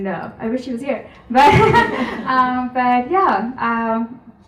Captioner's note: chuckles